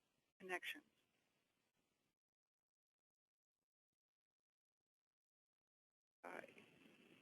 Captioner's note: long pause